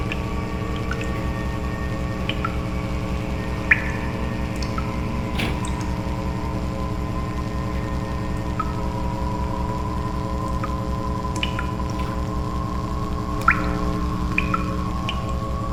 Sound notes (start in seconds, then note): 0.2 brooding music continues; 0.2 water pattering; 5.5 item clattering; 8.8 brooding music continues; 8.8 water pattering